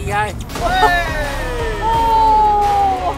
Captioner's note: old guys cheering